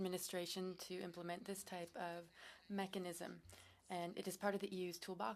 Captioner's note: speaking French